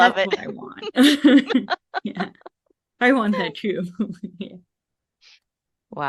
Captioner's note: laughter